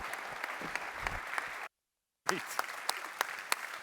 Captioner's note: applause